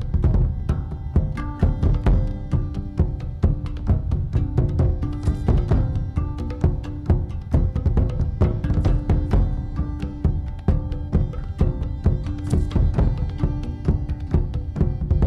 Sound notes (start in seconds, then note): none